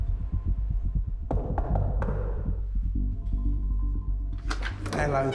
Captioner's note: knuckles knocking